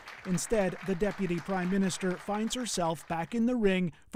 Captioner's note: applause